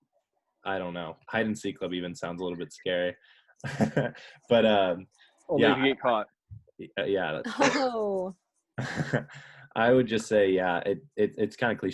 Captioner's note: laughs